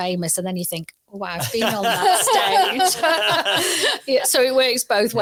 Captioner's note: audience laughs